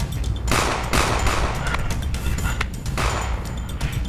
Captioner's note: gunshots pop